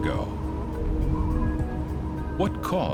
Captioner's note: wind whistles